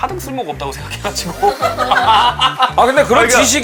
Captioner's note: awkward laugh